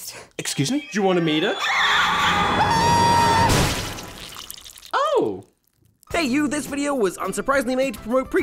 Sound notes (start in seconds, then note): 1.1 demonic screams; 1.2 Preacher screams